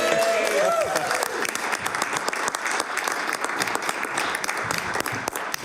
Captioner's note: applause